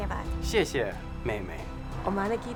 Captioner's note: speaking in Hindi; speaking in Chinese; speaking in Japanese